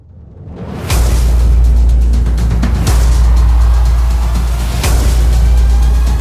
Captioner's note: graphics whooshing; bright music